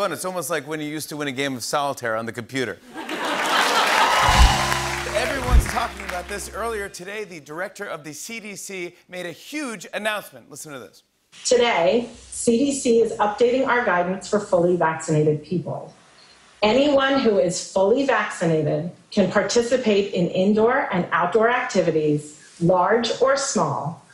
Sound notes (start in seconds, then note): 3.1 cheering and applause